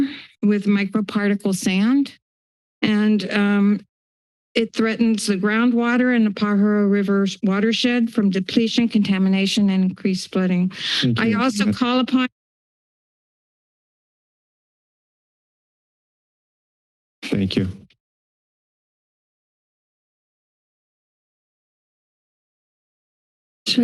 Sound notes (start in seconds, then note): 13.2 silence